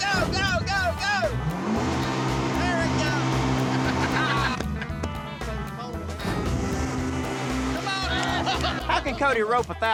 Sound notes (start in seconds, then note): 0.8 revving; 3.6 laughter; 8.1 laughter